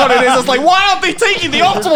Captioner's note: laughing